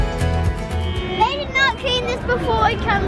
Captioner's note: horns honking